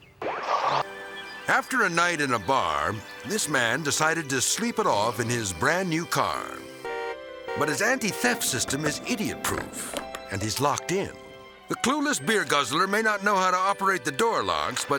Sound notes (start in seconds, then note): 5.6 car honking